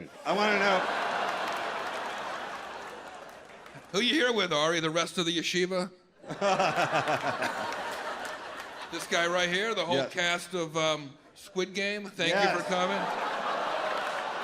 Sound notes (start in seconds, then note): 0.2 audience laughs; 6.2 audience laughs; 6.6 chuckles; 12.3 audience laughs